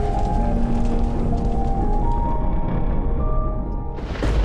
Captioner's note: fire crackling; thunderclap